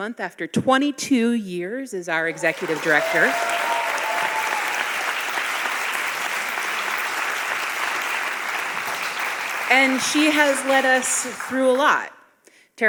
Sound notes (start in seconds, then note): 3.8 audience applauding